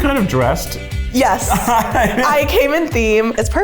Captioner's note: laughed